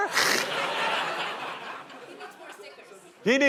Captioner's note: laughter